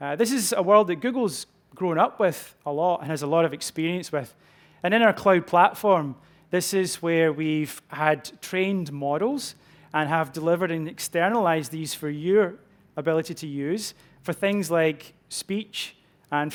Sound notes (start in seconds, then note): none